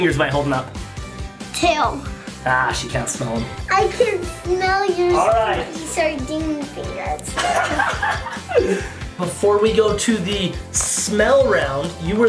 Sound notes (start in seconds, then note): 7.3 laughs